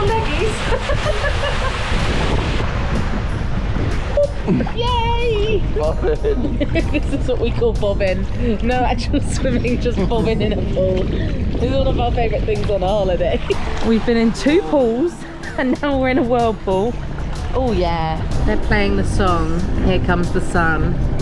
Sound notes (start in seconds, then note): 4.2 giggling; 5.8 laughing